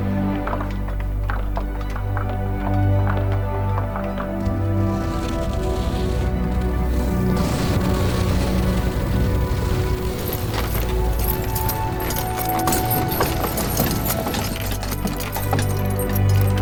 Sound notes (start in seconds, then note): 5.2 sled rumbling